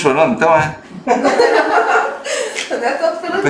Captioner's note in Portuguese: risos